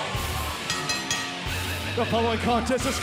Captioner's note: bell ringing